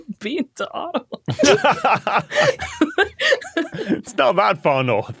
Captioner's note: group laughing; laughs